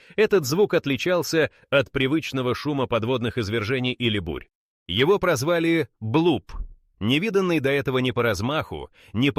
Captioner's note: Bloop